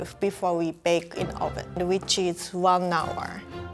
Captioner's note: none